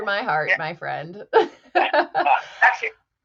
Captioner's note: all laugh